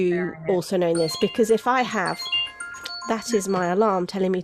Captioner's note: phone rings